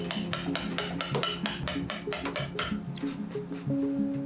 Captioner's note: tapping